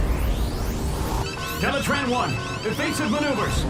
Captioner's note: alarm blaring